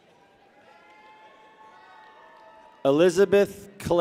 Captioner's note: people cheer